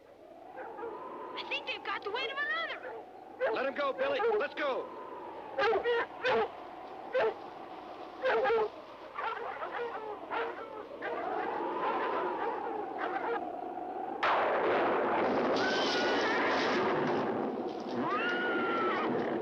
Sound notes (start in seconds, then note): 0.1 wind howling; 6.0 dogs barking; 11.5 wind howling; 14.1 thunder crashing; 15.9 horses whinnying